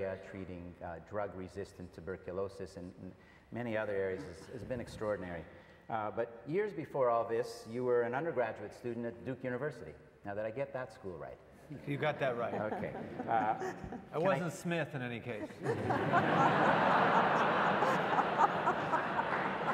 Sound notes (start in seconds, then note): 14.8 laughs; 15.4 audience laughs